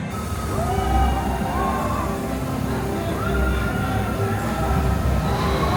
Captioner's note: people on rollercoaster scream